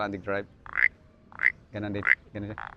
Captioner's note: mimics frog croaking